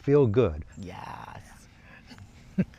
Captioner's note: laughs